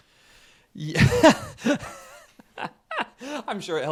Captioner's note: laughs